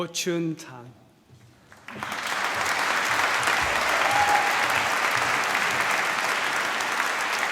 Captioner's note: applause